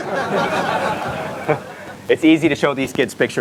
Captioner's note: audience laughter